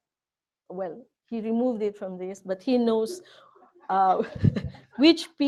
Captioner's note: chuckles